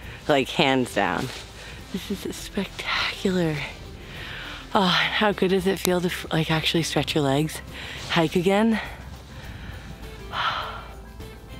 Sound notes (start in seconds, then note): 3.6 sighs; 10.2 exhales loudly